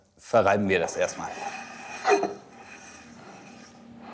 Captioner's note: scratching sound